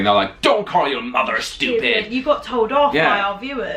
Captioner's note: American accent